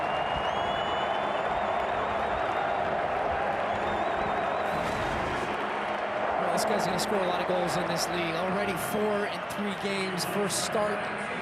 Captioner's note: applause